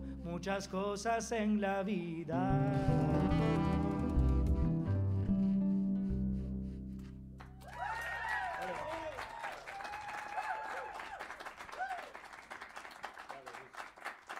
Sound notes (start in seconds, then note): 7.4 saludos y aplausos; 7.5 cheers and applause